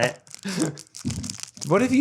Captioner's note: laughs